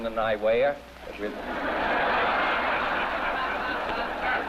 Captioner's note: audience laughs